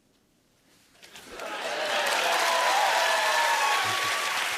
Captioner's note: cheers and applause